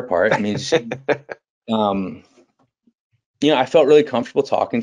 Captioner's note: laughing